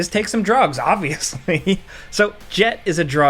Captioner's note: narrator chuckles